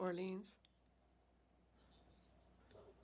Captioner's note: speaking French